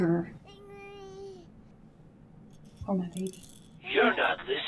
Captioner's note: baby cooing